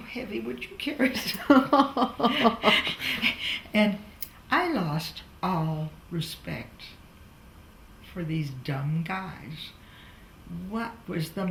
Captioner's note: laughs